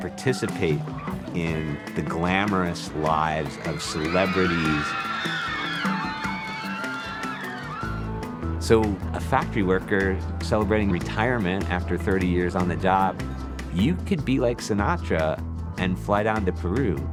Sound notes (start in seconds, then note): 5.4 crowd screaming